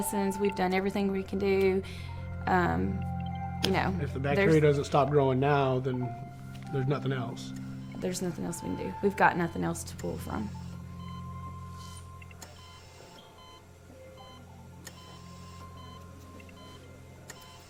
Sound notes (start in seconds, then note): 10.6 beeping